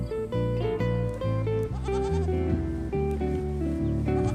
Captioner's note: bleating